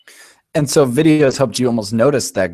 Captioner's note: voiceover